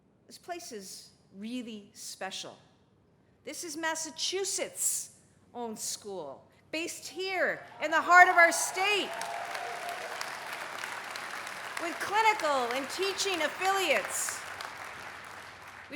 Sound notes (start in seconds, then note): 9.0 cheering, applause